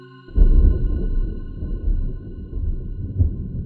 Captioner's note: thunder